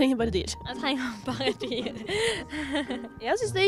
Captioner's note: laughs